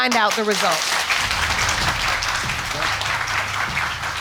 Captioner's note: audience clapping